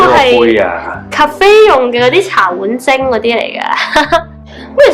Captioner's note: laughs